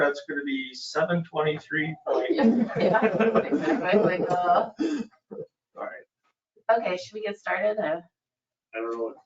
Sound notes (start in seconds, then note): 2.0 laughing drowns out speaking; 2.0 all laughing